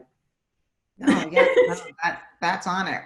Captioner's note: laughs